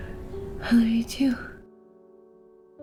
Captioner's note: voiceover